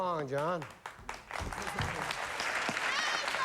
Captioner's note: applause